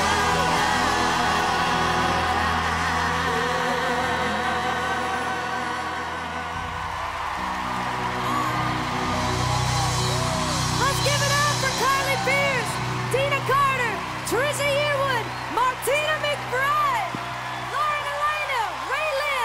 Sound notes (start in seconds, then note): 6.1 audience cheering and applauding